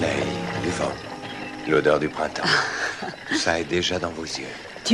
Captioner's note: chuckles